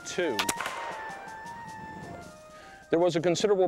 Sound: gunshot

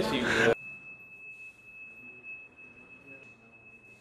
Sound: beeping

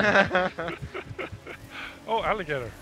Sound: laughs

